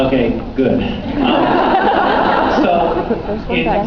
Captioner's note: laughs